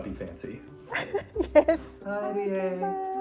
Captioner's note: laughing